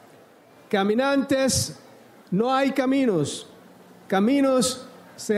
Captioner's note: speaks in foreign language